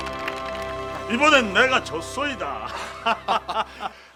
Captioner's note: laughing